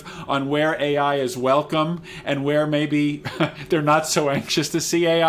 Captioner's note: laughs